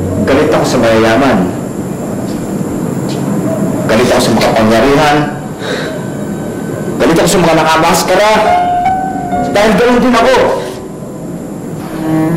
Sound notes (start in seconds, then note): 5.5 exhales